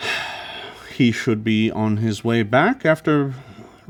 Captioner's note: sighs deeply